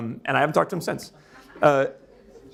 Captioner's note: audience laughing